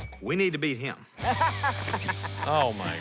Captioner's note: laughing